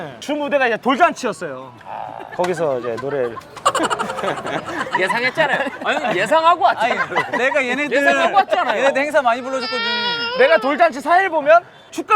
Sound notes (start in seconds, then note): 3.7 laughing